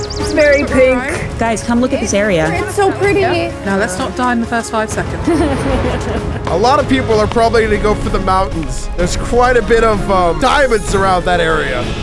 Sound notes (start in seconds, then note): 4.9 chuckling